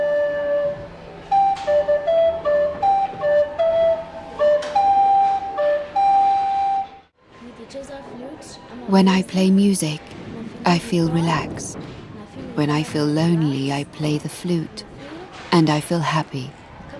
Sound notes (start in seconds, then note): 0.0 flute music continues; 7.0 speaking in non-English